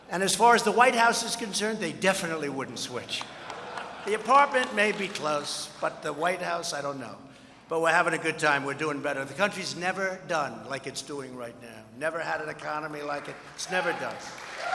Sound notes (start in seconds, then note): 3.1 laughter and applause